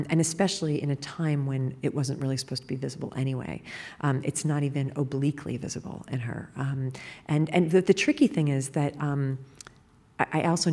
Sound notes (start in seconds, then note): none